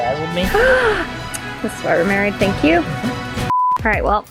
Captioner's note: gasping; light music